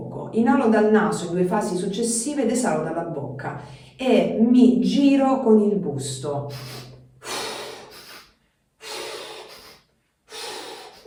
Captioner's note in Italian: sbuffare